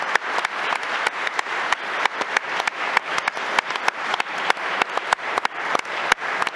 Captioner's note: applause